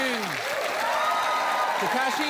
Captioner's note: cheering, applause